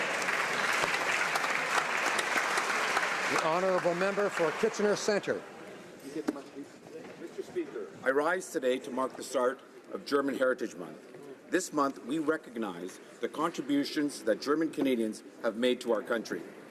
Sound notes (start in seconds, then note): 3.0 some Applause